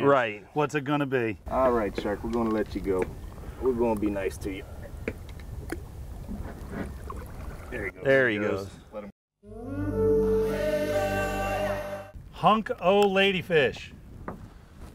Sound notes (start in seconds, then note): 5.8 hook snapping; 9.4 african music